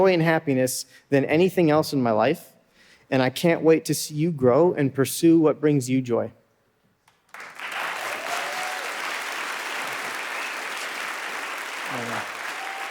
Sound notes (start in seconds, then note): 7.2 audience applauding